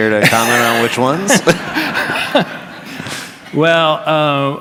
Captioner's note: laughs